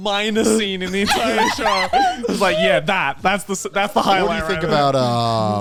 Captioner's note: sighs